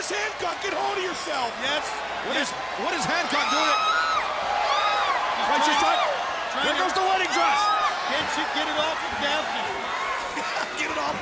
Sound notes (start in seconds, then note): 5.3 crowd cheering